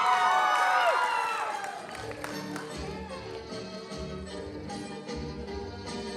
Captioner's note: applause